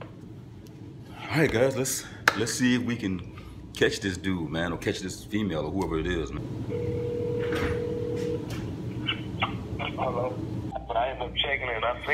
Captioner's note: phone rings